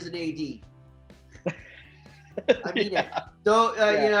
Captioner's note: laughing